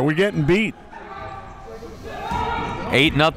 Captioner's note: crowd murmuring